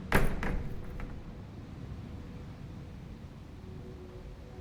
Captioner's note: door creaking; door clattering